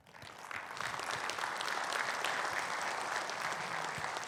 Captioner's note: audience clapping